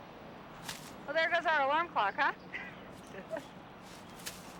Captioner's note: laughs